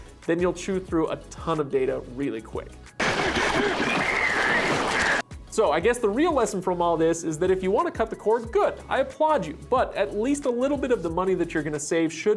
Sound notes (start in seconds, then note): 3.0 chomping noise; 3.4 screaming